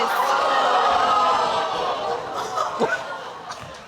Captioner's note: crowd crinjing